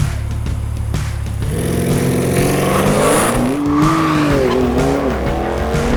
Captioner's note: engine roaring